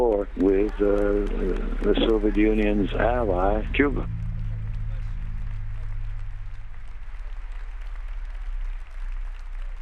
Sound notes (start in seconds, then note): 4.3 crowd applauds